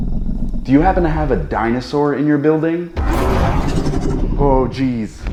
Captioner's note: rumbling foot-steps; more rumbling – distant ROAR